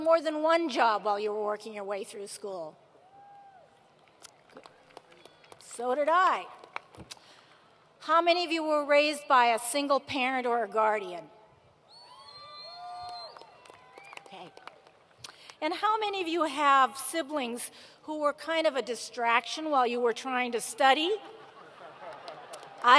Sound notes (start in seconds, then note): 12.7 applause